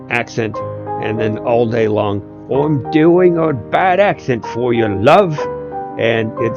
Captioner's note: bad British? accent